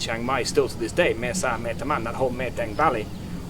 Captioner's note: speaking in foreign language